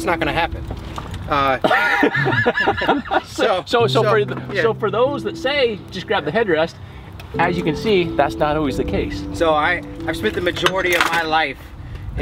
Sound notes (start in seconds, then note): 1.5 man laughs